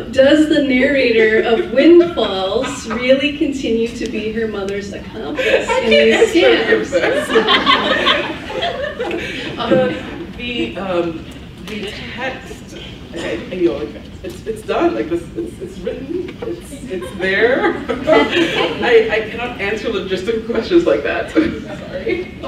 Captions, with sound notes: Does the narrator of Windfalls really continue to be her mother's accomplice? - I can't answer for this. (laughs) The text, it's done, like it's written, it's there. I cannot answer logistical questions like that, I'm sorry.